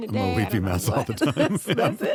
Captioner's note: laughter